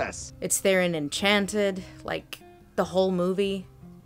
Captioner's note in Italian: voce fuori campo